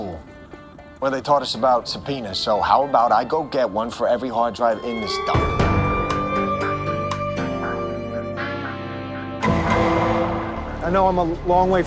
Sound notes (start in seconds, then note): 4.8 siren wails